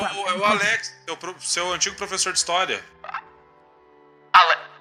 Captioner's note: none